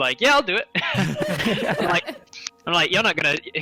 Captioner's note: all laughter